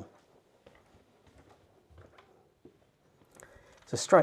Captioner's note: footsteps tapping